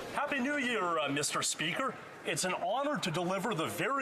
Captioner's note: speaking French